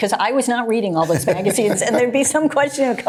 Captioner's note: Johnson laughs